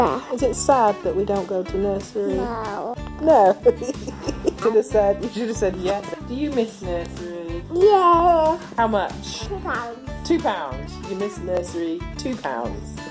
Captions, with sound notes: Is it sad that we don't go to nursery? No (laughs). You should've said 'yes'! Do you miss nursery? Yes! How much? Two pounds! Two pounds!? You miss nursery two pounds.